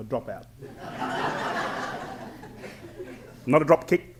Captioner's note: laughter